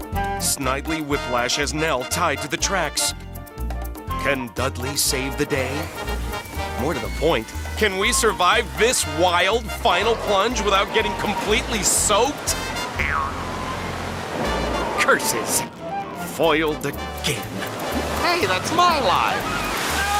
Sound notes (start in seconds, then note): 12.9 spring boings